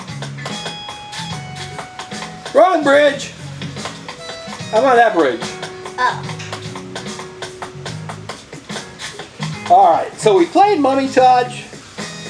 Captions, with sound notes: (footsteps) Wrong bridge! I'm by that bridge. - Oh. (footsteps) - All right, so we played Mummy Touch.